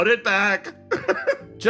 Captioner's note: laugh